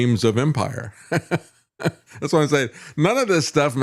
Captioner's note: laughs